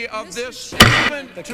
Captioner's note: shut up gavel bang